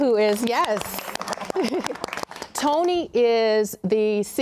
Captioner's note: panelists clapping and cheering